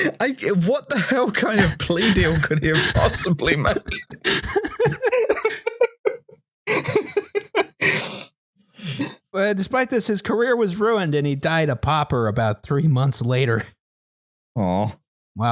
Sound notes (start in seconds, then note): 4.4 laughter